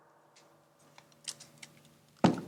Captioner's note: gun clicking